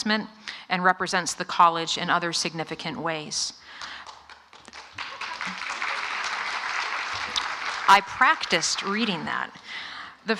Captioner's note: applause